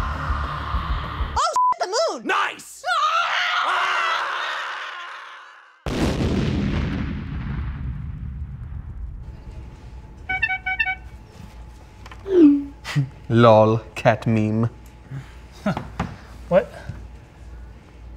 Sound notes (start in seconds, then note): 1.5 beep; 2.8 both screaming; 5.8 moon exploding; 10.2 horn honking